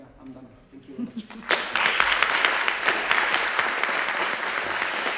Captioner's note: applause